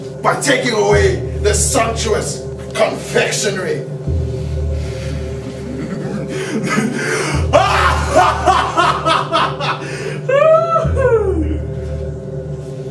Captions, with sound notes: by taking away the sumptuous, confectionery *Maniacal Laugh*